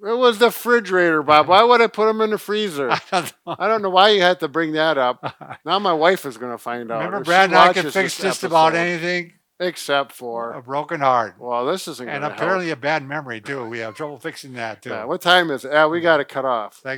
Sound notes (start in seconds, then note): 2.8 laughs; 5.1 laughs; 13.4 laughs